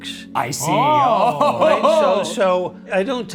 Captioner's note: laughs